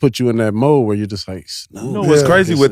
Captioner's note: speaks faintly